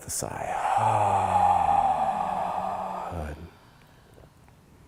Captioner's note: class sighing